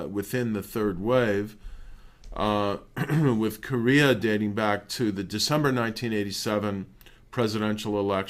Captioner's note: cough